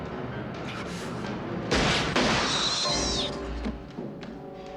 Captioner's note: gunfire